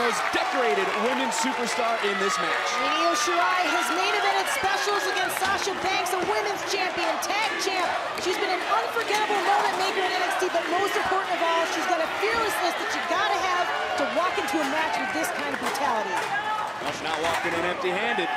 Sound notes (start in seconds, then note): 6.4 crowd chanting "io, io"